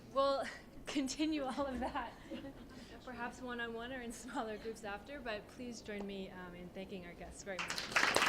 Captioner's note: applause